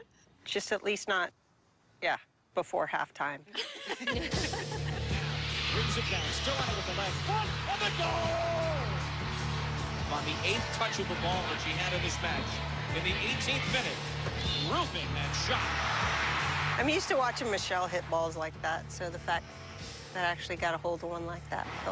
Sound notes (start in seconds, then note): 5.1 cheering, tv announcer